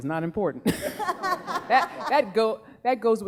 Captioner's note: laughing